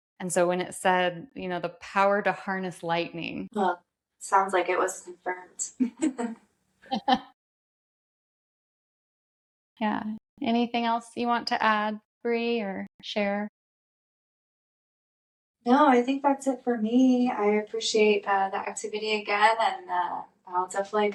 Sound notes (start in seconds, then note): 6.9 laugh